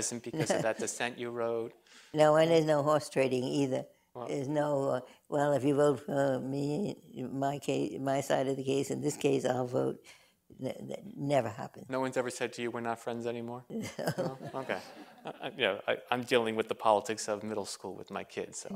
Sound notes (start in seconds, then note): 13.8 laughter